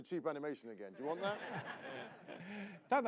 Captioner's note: laughter